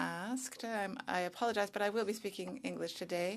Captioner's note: speaking French